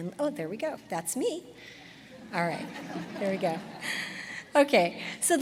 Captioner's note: laughter